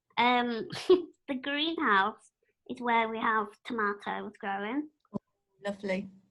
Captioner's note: laughter